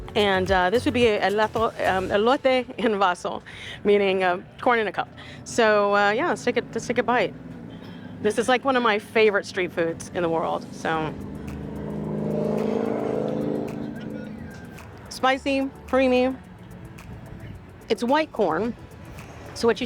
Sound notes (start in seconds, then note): 11.7 motorcycle engine roaring; 11.7 uplifting music continues